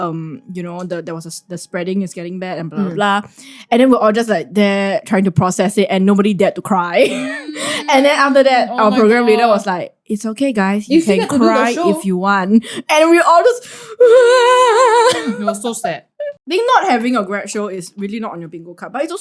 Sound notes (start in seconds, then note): 13.9 sobsss